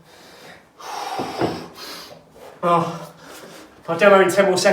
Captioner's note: exhales sharply